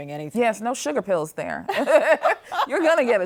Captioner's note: laughs